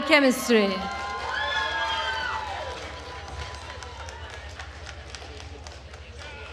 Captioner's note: attendees cheering and applauding